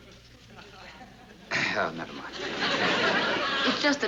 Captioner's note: nervously clears throat